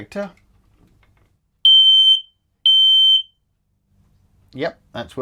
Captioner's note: loud Beeping Sound